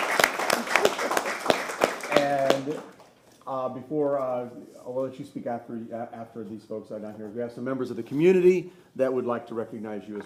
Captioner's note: applause